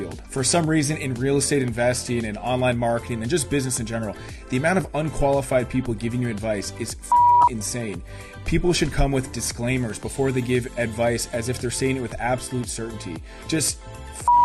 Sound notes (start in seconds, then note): 7.1 beep; 14.2 beep